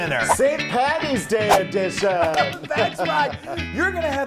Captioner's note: clapping; laughing